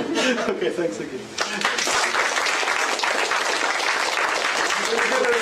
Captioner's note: applause